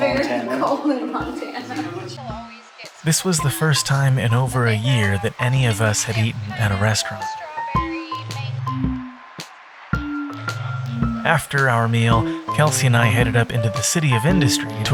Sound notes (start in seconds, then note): 3.2 voiceover